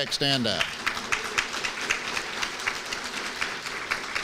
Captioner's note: applause